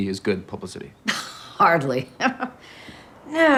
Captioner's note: laughs